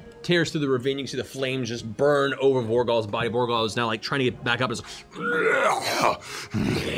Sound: roars

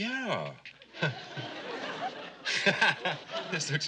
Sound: laughs

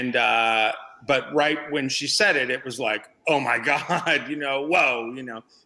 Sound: laughs

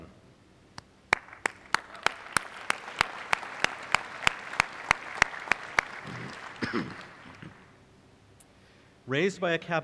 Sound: applause

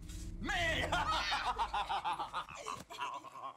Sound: laughs

